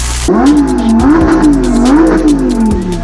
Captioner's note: engine roaring